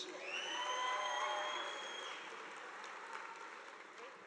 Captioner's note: audience applauding